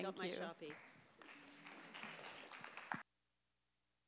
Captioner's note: a few more claps